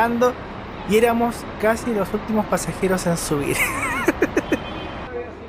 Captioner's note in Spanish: risas